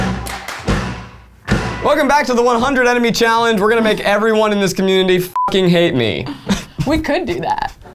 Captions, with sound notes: - Welcome back to the 100 enemy challenge. We're going to make everyone in this community (beep) hate me. - We could do that.